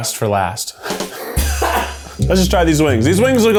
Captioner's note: crew laughs